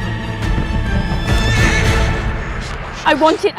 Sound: horse neighs

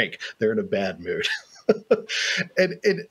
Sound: laughs

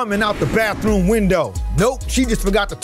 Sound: genie whooshes

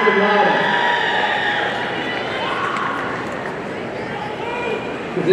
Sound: audience cheering

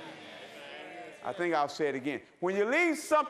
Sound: congregation agreeing

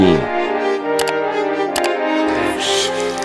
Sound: mouse click

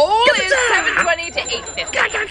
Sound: cheering

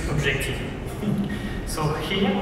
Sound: laughs

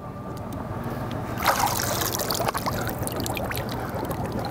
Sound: water splashing

